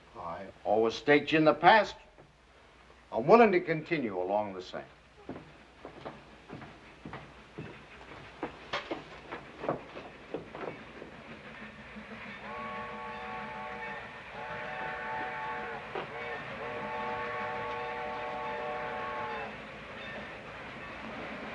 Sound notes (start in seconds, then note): 12.3 train whistle blowing